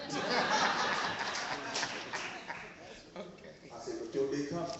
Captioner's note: laughing